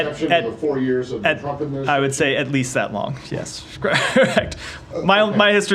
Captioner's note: laughter